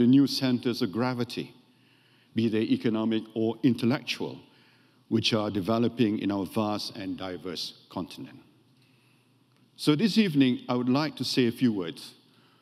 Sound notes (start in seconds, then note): none